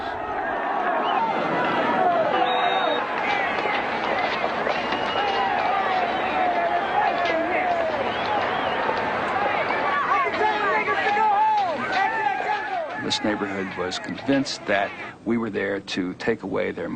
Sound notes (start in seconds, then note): 0.6 crowd noises